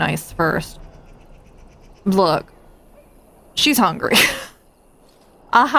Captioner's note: laughs